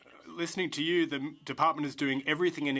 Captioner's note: speaking in french